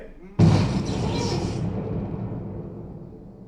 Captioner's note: electrical explosion sound 2: electric boogaloo